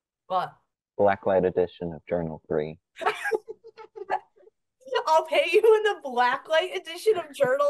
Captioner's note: laughs